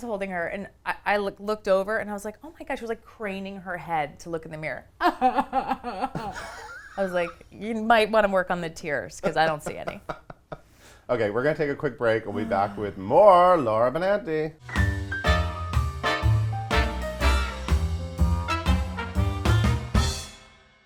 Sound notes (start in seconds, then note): 5.8 sobs